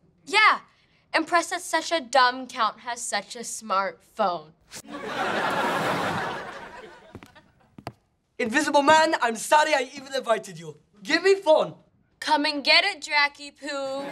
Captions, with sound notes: Yeah, impressed that such a dumb count has such a smart phone. [crowd laughing] Invisible Man, I'm sorry I even invited you. Give me phone! Come and get it Dracy-poo.